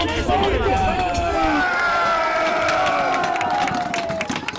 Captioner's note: cheering; people applauding